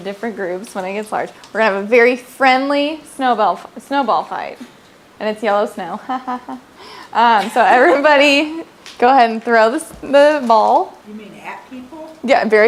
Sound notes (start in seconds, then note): 5.8 laughing